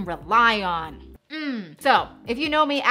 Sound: grunts

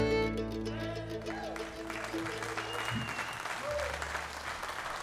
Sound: audience applauds

